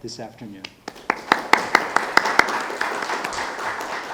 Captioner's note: audience applauding